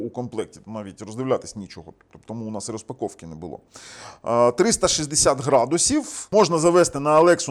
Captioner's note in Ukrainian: сопіння